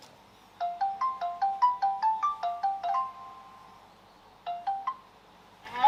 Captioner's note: phone ringing